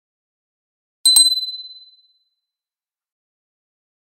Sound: sound of small bell

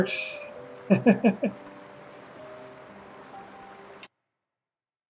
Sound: chuckles

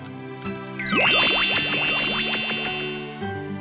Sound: clock ticking; zapping sound

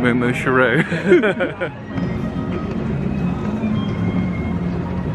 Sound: both laughing

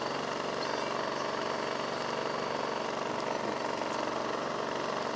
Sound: engines rumbling

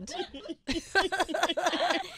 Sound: laughing

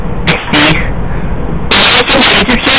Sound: static cosmic background radiation interference sounds; continued static noises

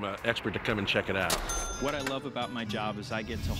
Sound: cash register chime

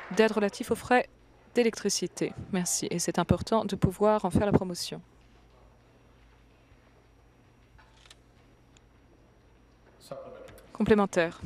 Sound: applause

